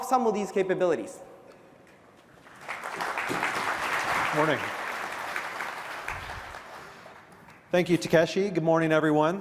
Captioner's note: applause